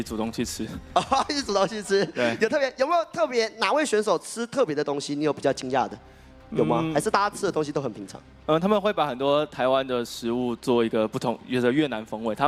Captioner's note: laughs